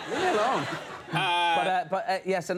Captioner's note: audience laughing